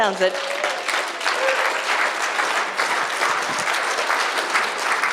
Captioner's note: audience applause